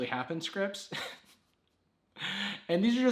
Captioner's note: laughs